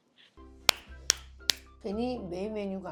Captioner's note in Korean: 박수